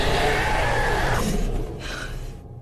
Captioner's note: gasps